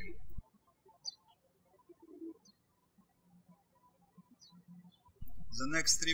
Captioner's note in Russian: птички щебечут